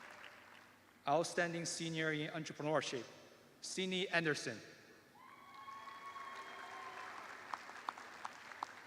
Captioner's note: cheers and applause